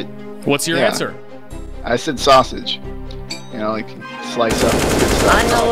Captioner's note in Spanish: disparos